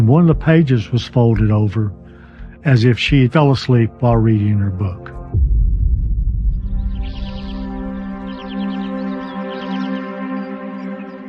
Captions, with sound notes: and one of the pages was folded over as if she fell asleep while reading her book. [birds chirping]